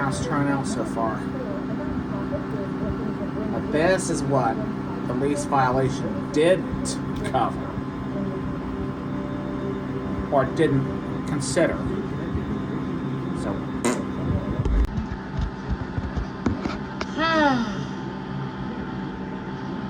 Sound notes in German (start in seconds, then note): 13.8 Ava bläst eine Himbeere; 15.3 Caprice seufzt